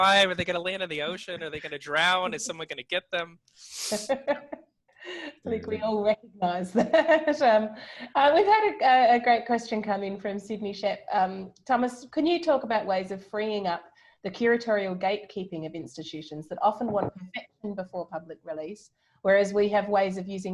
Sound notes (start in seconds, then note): 5.2 laughing